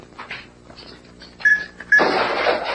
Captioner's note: beep beep